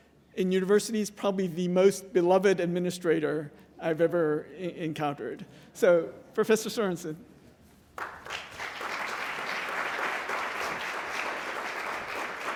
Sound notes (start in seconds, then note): 7.9 applause